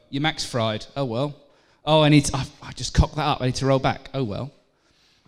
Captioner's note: none